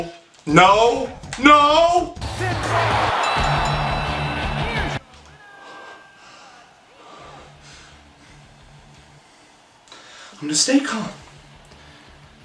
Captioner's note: throws the controller and scream